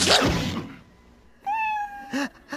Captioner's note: meow